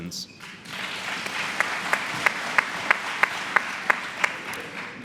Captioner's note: applause